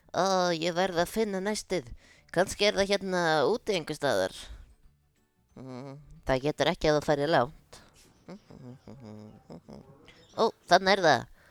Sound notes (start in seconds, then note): 8.2 humming